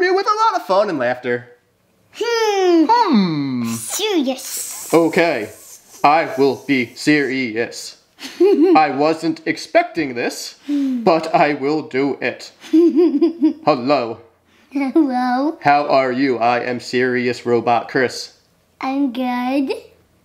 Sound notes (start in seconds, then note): 8.2 laughing